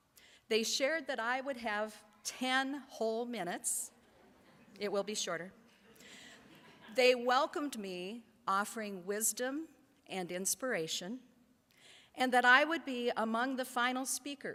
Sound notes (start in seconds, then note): 4.2 audience laughs